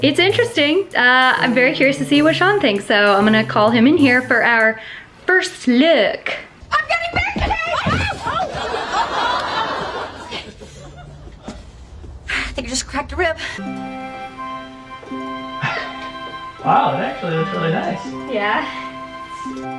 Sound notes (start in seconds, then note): 7.9 laugh track; 8.1 screams; 13.6 romantic wedding music; 15.6 laughs